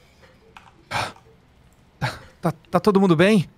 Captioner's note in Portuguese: respiração ofegante